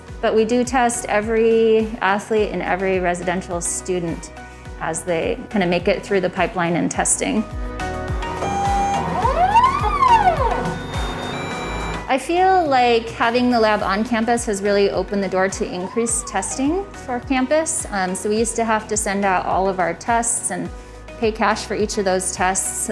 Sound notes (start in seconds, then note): 8.3 machine whirrs